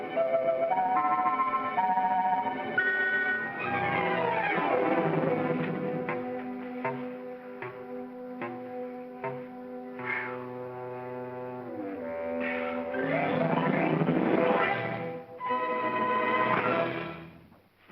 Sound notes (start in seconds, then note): 0.2 whimsical music; 3.6 suspenseful music; 6.1 whimsical music; 10.1 Eddie exhales hard; 12.0 whimsical music